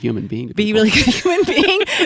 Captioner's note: laughs